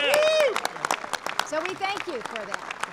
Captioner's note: applause